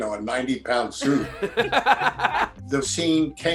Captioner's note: laughter